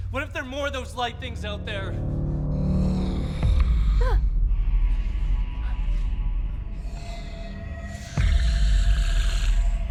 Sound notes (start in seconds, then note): 3.1 growling; 4.6 gasping